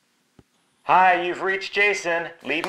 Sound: on phone

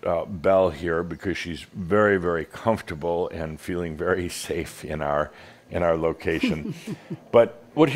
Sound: chuckles

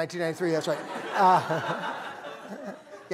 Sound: laughter

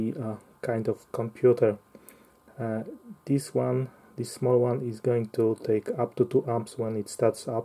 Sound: amps

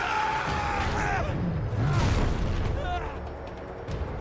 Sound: Nathan screaming

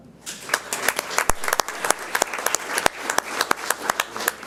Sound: audience applauds

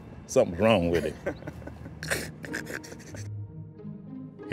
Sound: laughing

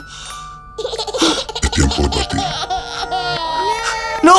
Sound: baby crying

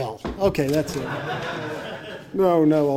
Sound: audience laughing

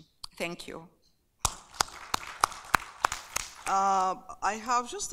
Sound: applauding

